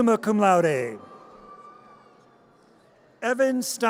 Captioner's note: audience cheers